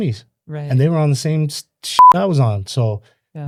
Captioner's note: beep